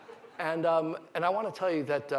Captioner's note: laughter